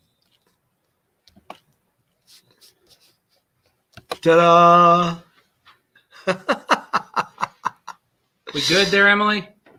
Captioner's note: laughter